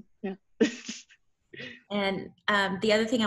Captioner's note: laughs